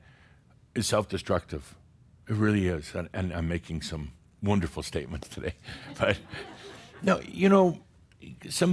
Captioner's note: Adamus chuckles